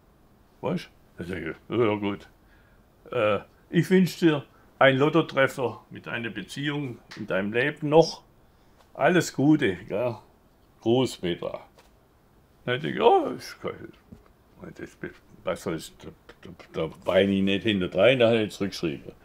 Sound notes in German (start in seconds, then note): 12.2 Er stammelt